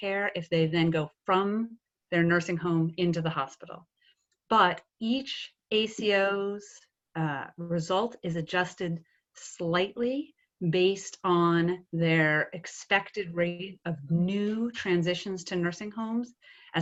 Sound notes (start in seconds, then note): none